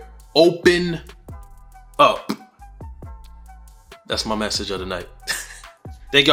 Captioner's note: chuckles